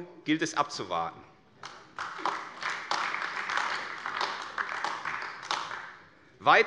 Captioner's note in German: Beifall AfD